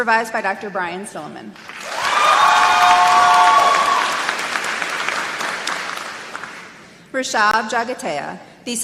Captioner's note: applause